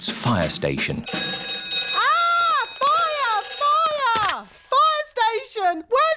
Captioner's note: rings